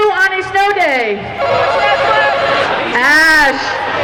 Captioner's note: buzzing